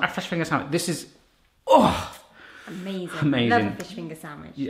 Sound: groans

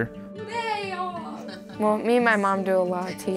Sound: laughing

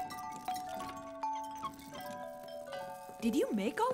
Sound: bottles chime

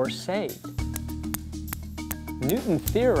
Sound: balls clinking

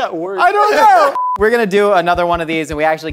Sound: beep

